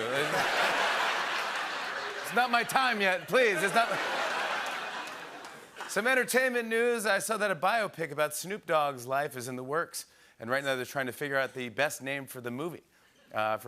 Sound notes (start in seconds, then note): 0.0 laughter and applause